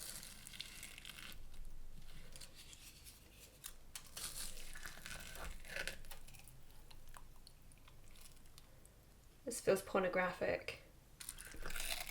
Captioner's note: cracking of breadcrumbs